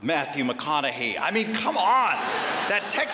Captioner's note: laughter